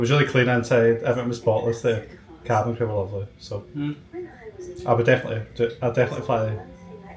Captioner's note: mmm